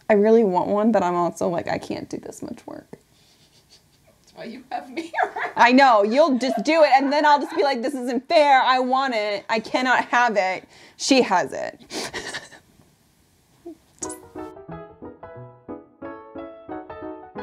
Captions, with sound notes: I really want one, but I'm also like, I can't do this much work. - That's why you have me here. (laughs) I know. You'll do it. And then I'll just be like, this isn't fair. I want it. I can not have it. She has it. (playful piano music)